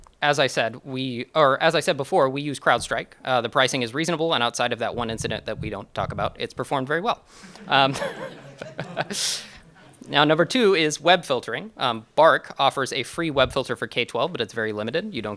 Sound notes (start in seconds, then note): 7.4 chuckles